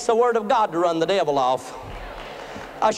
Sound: applause

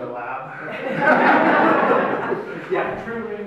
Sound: crowd laughs

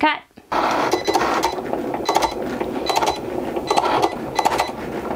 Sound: machine beeping and clicking

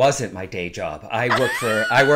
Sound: laughing

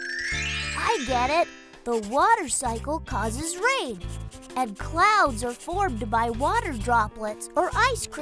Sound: Bailey scribbling in journal

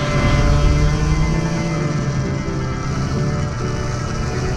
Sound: race car engines

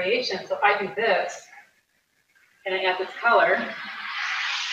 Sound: paper scratching

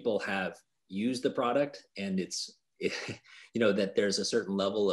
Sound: chuckles

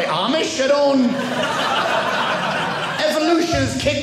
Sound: audience laughing

